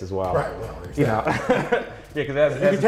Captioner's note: laughs